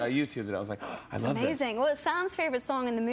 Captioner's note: gasps